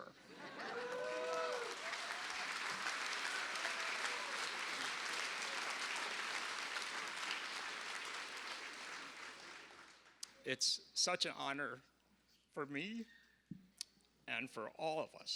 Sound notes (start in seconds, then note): 8.3 applause